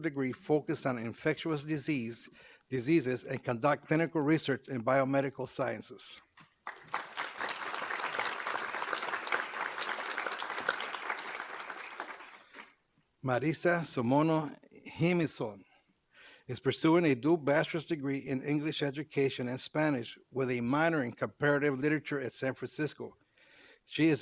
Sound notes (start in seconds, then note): 6.6 applause